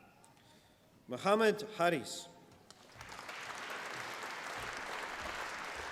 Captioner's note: applause